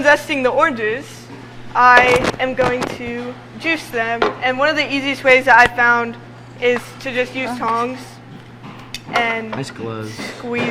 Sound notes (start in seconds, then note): 3.4 objects jostling